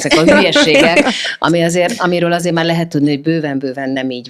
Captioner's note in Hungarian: nevetés